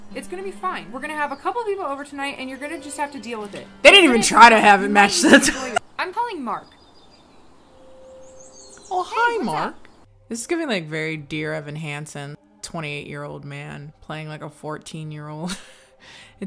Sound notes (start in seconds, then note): 3.9 laughs